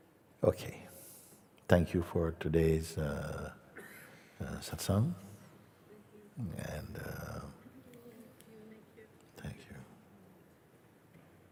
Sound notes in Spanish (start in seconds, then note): 5.7 Voces en la audiencia